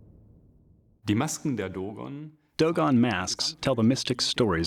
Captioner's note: non-english speech